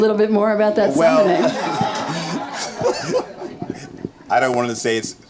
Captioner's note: audience laughing